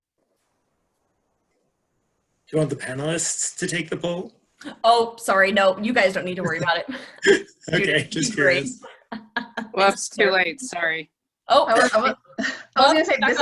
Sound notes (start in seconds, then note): 6.4 laughter